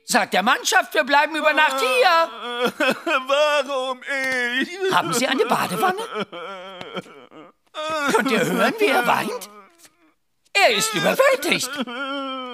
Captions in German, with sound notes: Sag der Mannschaft, wir bleiben über Nacht. (jammert) Warum ich? Haben Sie eine Badewanne? Könnt ihr hören, wie er weint? Er ist überwältigt. (weint)